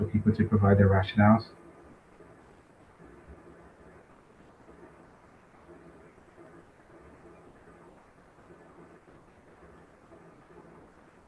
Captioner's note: pause